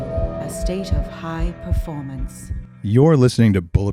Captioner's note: heart beating